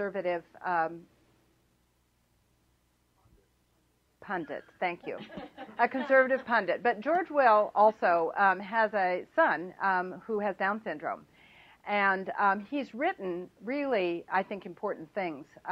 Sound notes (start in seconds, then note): 5.0 laughter